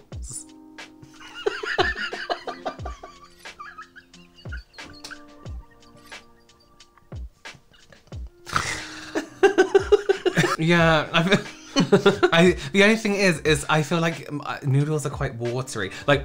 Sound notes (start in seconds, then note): 2.9 screaming Choking Laughter